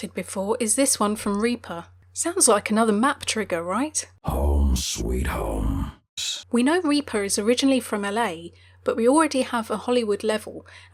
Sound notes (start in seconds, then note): 6.1 voiceover